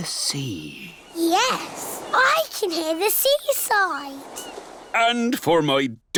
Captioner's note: waves splashing